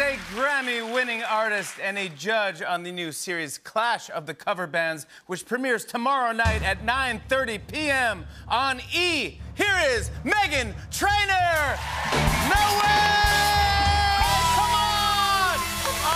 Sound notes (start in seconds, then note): 11.5 cheers and applause